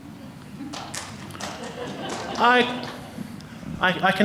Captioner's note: audience clapping and laughing